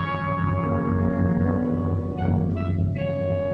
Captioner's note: none